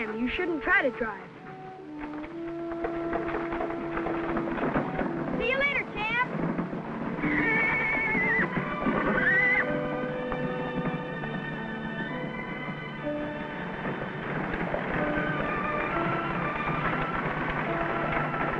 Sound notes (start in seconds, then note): 7.1 Champ whinnying; 11.2 whimsical orchestral music